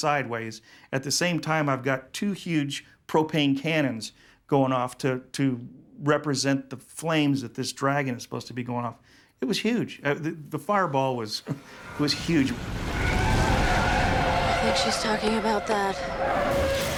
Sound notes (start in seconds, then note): 11.5 tires squealing